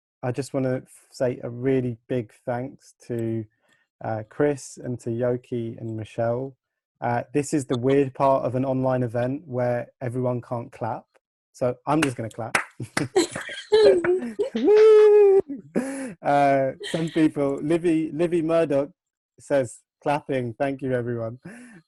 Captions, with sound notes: I just wanna say a really big thanks to Chris, and to Yoki and Michelle, this is the weird part of an online event where everyone can't clap, so I'm just gonna clap. (applause) (chuckles) Whoo! Some people, Livvy Murdoch says, "Clapping! Thank you, everyone."